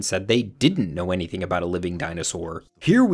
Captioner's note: none